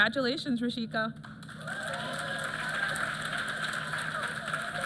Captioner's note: applause